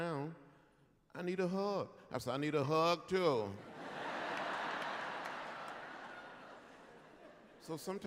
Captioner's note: laughter